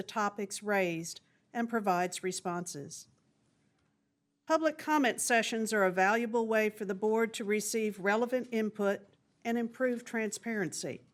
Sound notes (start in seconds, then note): none